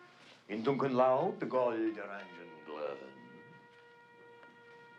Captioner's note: speaking german